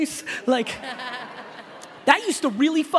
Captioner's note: laughing